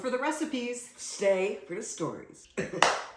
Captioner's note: soft clap